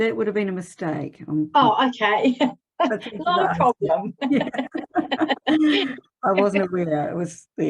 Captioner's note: laughs